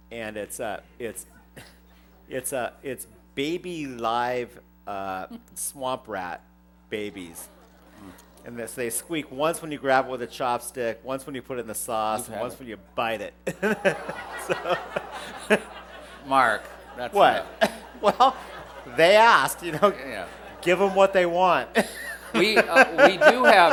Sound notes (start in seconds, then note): 7.2 groans; 13.5 groans and laughter; 21.5 laughter